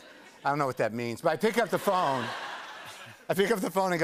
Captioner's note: laughter